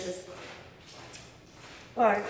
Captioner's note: shoes screeching